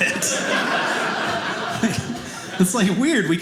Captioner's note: audience laughing